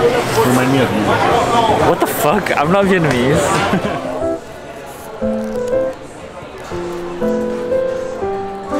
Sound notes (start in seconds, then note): 3.5 laughing; 4.0 playful music